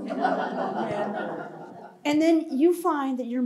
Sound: laughter

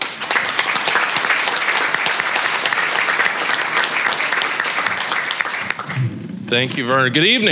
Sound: applause

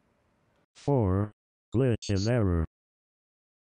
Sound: robot Voice

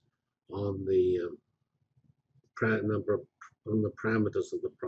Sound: pause

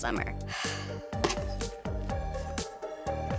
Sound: sighs

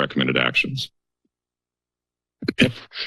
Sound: silence

